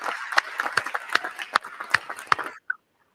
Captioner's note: applause